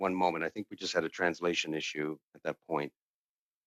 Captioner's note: speaking French